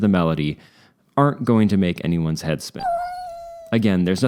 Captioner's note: meow